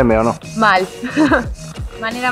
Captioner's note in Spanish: risas